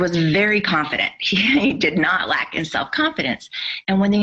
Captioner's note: laughs